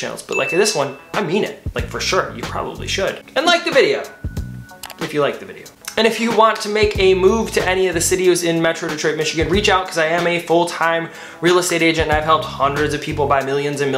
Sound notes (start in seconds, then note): 0.3 bell dinging; 4.8 button clicking